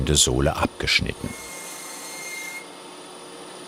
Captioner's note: grinding noise